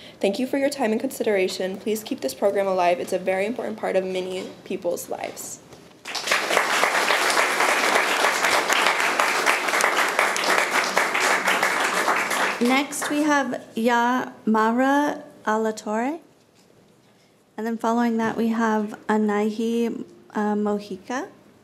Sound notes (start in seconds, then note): 6.0 room applauds